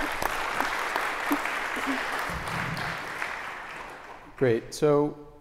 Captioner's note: applause